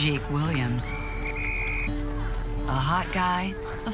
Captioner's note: whistle blows